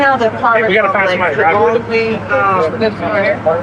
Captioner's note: chatttterer